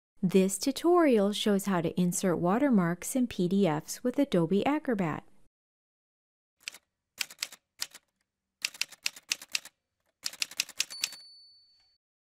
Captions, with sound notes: This tutorial shows how to insert watermarks in PDFs with Adobe Acrobat. [Typewriter sounds]